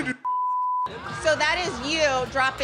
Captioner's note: beeps